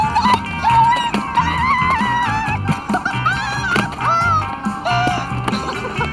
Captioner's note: screaming